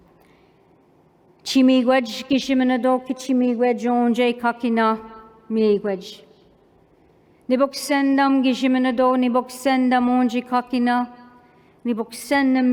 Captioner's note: non-english speech